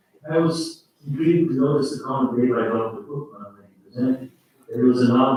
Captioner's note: faintly speaking